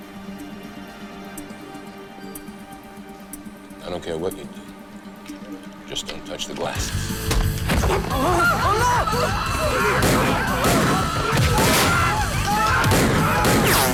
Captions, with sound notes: - I don't care what you do, just don't touch the glasses. (people screaming) (overlapping chattering) (gun fires)